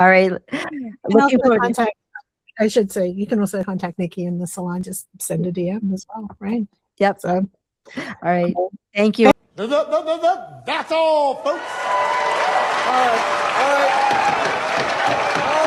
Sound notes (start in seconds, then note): 11.4 applause